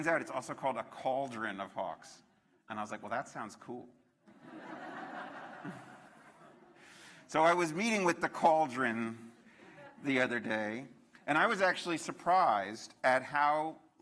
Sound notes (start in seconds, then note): 6.1 laughter